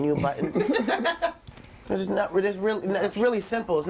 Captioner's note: all laughing